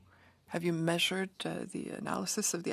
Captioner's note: speaking French